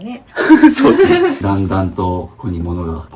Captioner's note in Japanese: 笑い